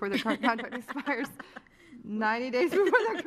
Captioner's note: laughter